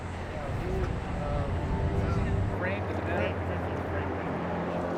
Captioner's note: surveyors chattering